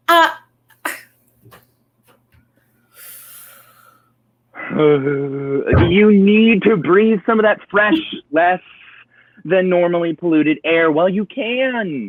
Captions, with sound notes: (inhaling) (sarcastically laughs) You need to breathe some of that fresh, less-than-normally polluted air while you can.